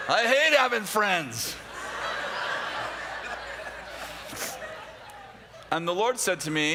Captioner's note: laughter